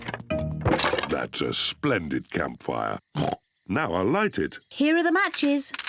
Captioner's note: oinks